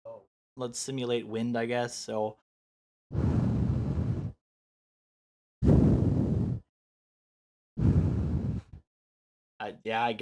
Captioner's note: blows into microphone